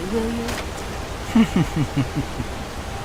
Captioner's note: laughter